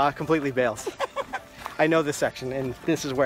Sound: laugh

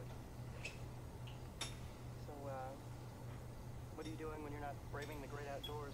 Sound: man’s Voice

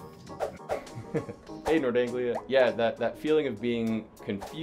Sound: laughs

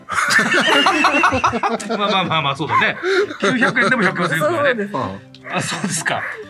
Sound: laughs

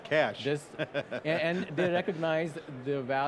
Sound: laughs

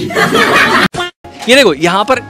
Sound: laughing

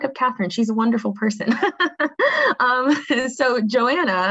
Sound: laughs

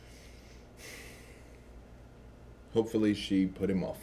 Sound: sighs

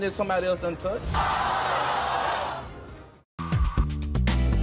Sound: crowd exclaiming

